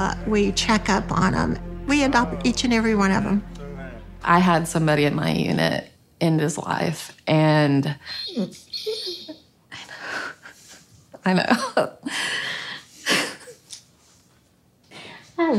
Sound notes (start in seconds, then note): 8.0 Allie whimpering; 13.0 chuckles